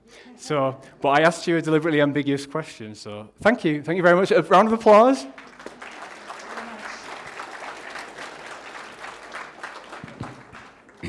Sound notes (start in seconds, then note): 4.4 applause